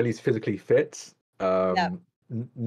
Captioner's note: laughs